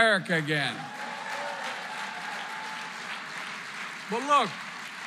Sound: applause

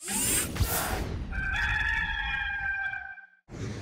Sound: rooster Crows

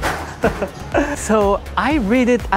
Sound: chuckles

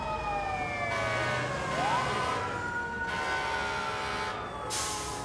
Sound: fire engine honking

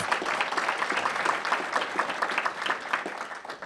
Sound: applause

